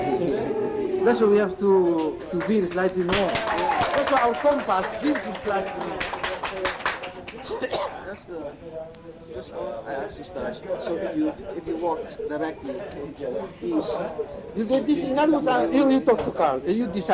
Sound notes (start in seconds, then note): 3.9 audience cheering; 4.9 speaks in foreign language